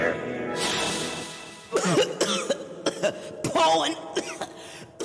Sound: sniff, Coughs

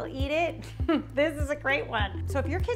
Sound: chuckles

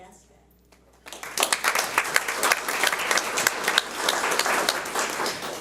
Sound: audience applauds

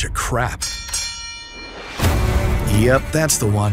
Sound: bell dinging

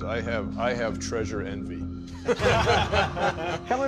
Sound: laughing

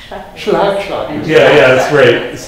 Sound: foreign language

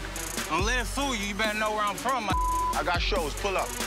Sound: beep

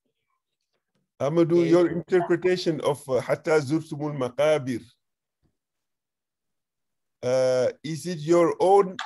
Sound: speaking arabic

